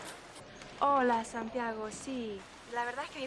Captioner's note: berbicara bahasa spanyol